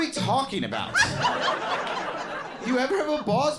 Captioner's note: crowd laughs